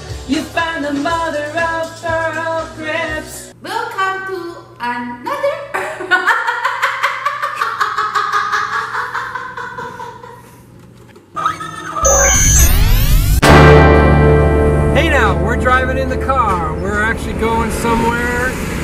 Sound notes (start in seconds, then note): 5.4 laughing; 13.4 guitar Chord